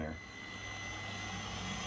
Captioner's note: machine whirring